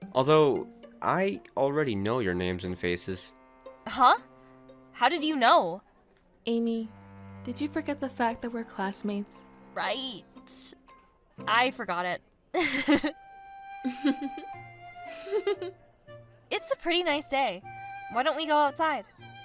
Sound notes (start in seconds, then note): 12.5 sophie & chloe giggles; 13.8 amanda laughs nervously